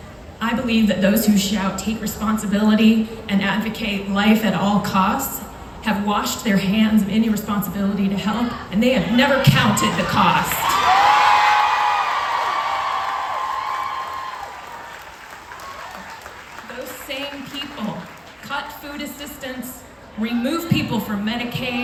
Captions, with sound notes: I believe that those who shout “take responsibility” and advocate for “life at all costs” wash their hands of any responsibility to help and they have never counted the cost (crowd cheers) Those same people cut food assistance remove people from Medicaid,